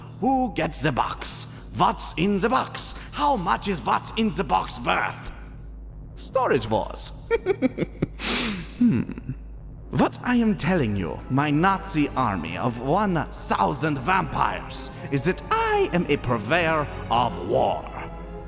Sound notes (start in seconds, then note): 7.2 chuckling; 8.1 deep Breath